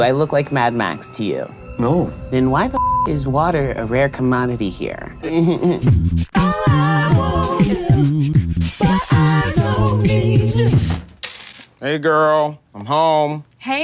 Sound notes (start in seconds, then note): 2.6 beep; 5.5 gentle music